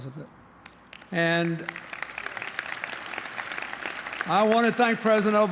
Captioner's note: applause